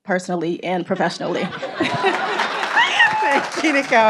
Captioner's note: people laughing